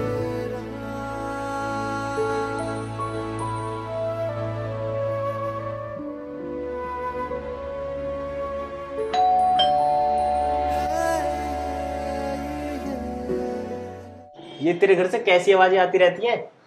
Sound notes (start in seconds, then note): 9.1 door Bell Rings